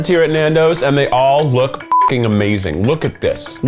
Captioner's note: beep